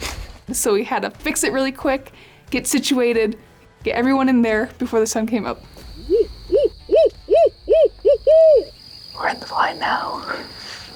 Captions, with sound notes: So we had to fix it really quick, get situated, get everyone in there before the sun came up. [OWL HOOTING]